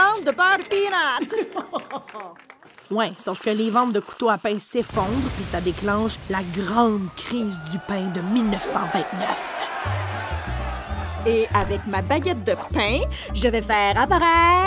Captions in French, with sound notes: (rires) - Ouain, sauf que les ventes de couteaux à pain s'effondrent puis ça déclenche la grande crise du pain de 1929! (huées) - Et avec ma baguette de pain, je vais faire apparaître...